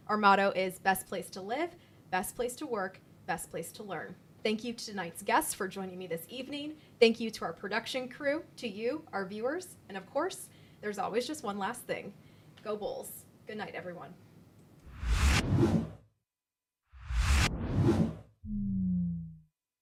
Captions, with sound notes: Our motto is "Best place to live, best place to work, best place to learn." Thank you to tonight's guests for joining me this evening. Thank you to our production crew, to you, our viewers. And of course, there's always just one last thing. Go Bulls. Goodnight, everyone. (air whooshing)